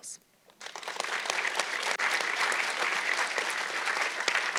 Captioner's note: audience clapping